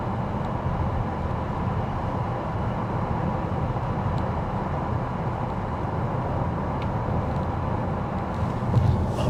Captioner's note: engine roaring